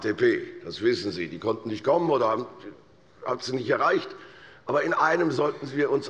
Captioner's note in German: none